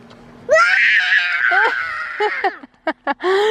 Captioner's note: screaming; laughing